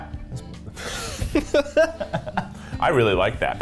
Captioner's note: laughs